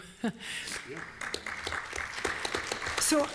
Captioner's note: applause